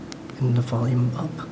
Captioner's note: click